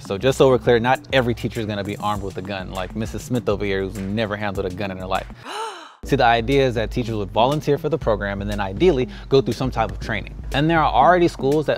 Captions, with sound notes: So just so we're clear, not every teacher's gonna be armed with a gun like Mrs. Smith over here who's never handled a gun in her life. (teacher gasps) His idea is that teachers would volunteer for the program and then, ideally, go through some type of training. And there are already schools